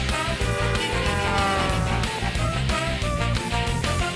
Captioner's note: honking